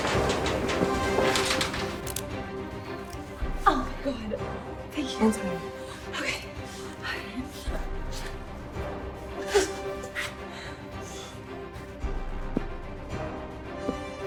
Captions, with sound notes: (suspenseful orchestral music) - Oh God, thank you, okay. (Nicole grunting)